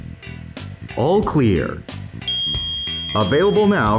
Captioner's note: ding